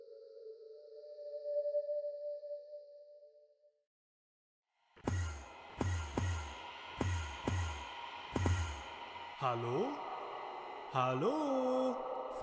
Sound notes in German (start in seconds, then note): 5.4 Enderman Teleport Geräusche